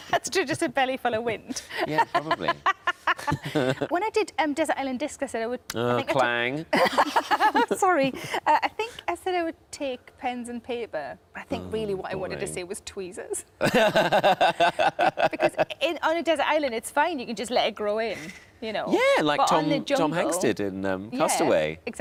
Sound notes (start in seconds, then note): 1.5 laughs; 1.7 Sarah and Tom laughing; 7.2 laughs; 13.6 Tom laughs